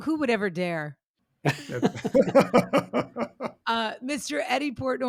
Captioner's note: people laughing